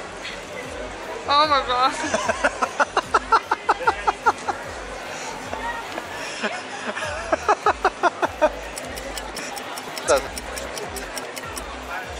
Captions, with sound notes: Oh my God! (Laughter) [Laughter] 5 hours later...